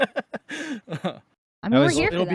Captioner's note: laughing